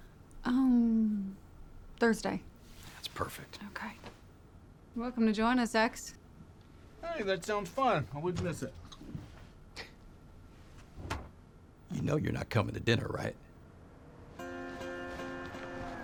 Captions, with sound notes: UMMM... THURSDAY? THAT'S PERFECT. OKAY. YOU'RE WELCOME TO JOIN US, EX. HEY, THAT SOUNDS FUN. I WOULDN'T MISS IT. [SCOFFS, DOOR CLOSES] YOU KNOW YOU'RE NOT COMIN' TO DINNER, RIGHT?